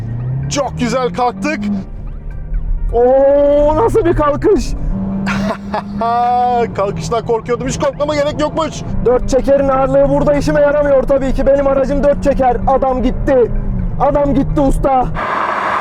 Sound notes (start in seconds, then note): 5.2 evil laughter